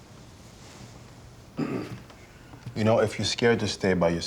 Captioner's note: clears throat